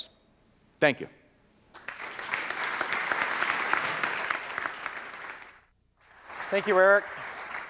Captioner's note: applause